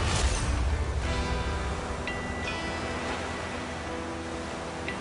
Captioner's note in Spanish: Sonido del romper de las olas